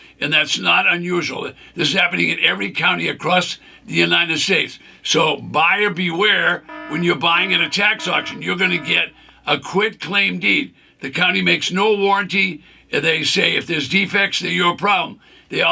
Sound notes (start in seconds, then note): 6.3 alarm blares